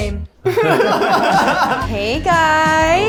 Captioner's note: everyone laughs